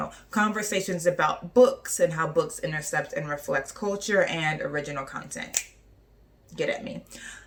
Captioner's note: snaps